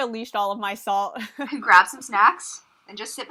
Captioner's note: hosts laugh